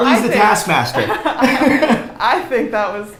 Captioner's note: laughs